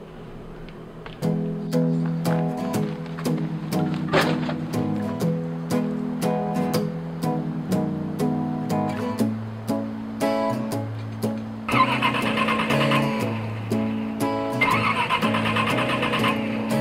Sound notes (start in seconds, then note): 12.9 engine stalling